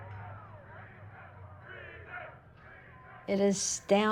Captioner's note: crowd